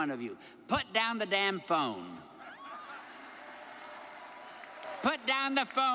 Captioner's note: audience laughs